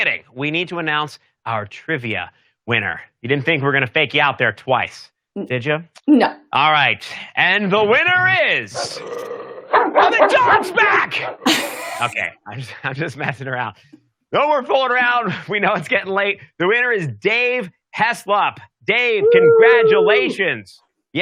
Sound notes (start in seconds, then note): 9.5 dogs barking; 11.8 both laugh